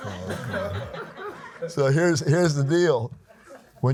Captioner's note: laughs